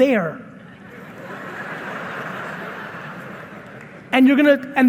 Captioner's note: audience laughing